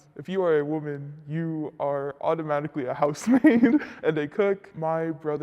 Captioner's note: laughs